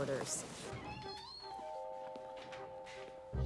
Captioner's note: door creaks; curious music